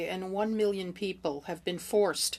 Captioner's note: speaking french